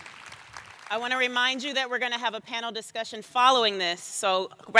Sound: cheers and applause

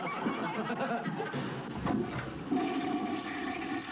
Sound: toilet flushing

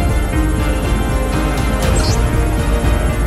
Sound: alphabet displayed sound

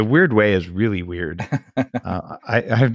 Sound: laughs

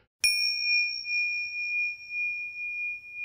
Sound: bell chimes

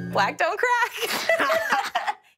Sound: laughing

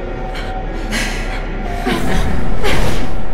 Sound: eerie Laughter

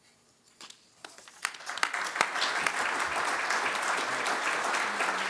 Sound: applause

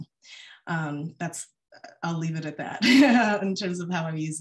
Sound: laughs

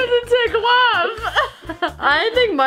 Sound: laughing

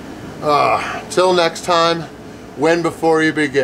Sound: grunts

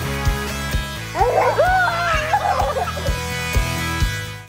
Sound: laughing

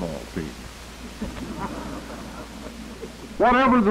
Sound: laughter

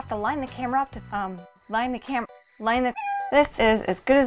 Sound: meow

